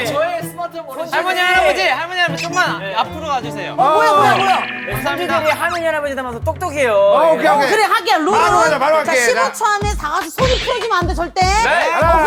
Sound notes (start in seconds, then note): 5.4 confident